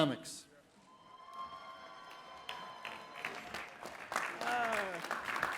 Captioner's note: clapping